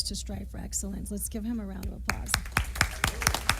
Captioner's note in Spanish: aplausos